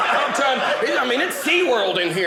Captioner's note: audience laughing